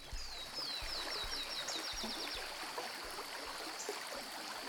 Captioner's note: birds chirping